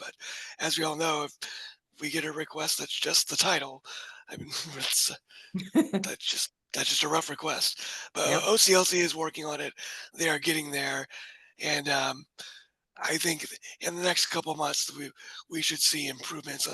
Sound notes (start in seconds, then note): 5.6 laughs